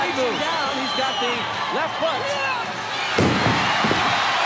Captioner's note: Jacques yells